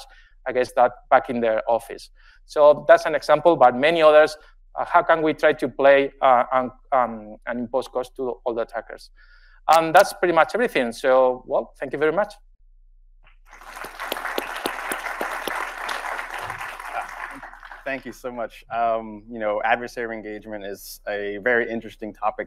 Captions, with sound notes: I guess that back in their office. So that's an example, but many others how can we try to play on and post cost to all the attackers? And that's pretty much everything. So, well, thank you very much. (audience applauds) Thank you. - Thank you so much. You know, adversary engagement is a very interesting topic